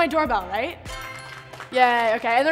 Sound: applauding

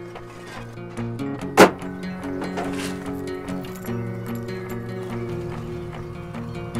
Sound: hood slamming; vehicle engine

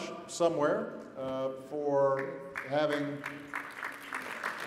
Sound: applause

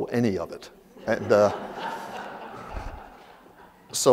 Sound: laughter

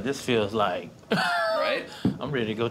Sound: laughs

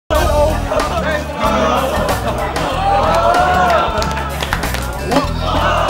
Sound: cheering

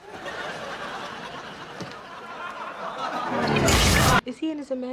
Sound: laugh track

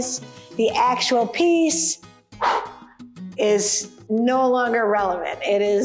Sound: breathes out

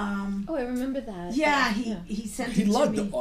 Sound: voiceover

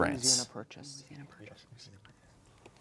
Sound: whispering

